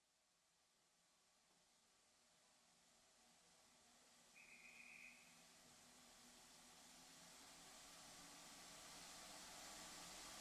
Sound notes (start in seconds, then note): 4.5 bird calling